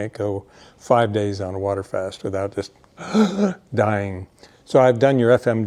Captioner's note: heavy breathes